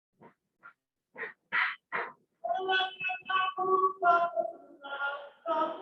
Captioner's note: non-english speech